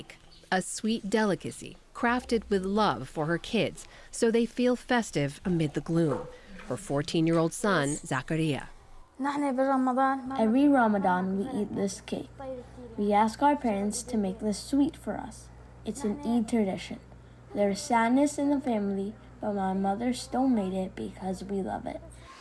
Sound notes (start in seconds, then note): 10.1 through translator